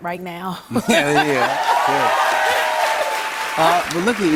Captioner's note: cheers and applause